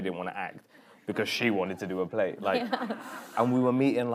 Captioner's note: laughing